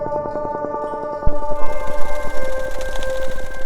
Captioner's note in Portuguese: Asas batendo